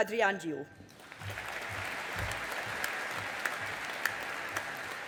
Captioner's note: audience applauding